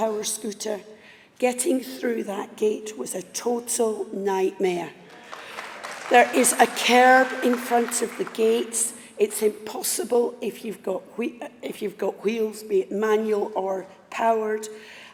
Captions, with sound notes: , disability rights and also on workers rights (APPLAUSE). The second thing that I would like to raise as somebody who came into conference today, in power scooter. Getting